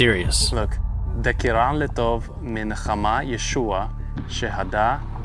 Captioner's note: reading in Aramaic